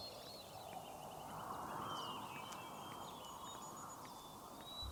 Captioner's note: footsteps clack